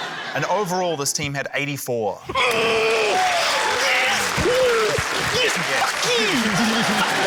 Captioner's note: cheering, applause; grunts; laughter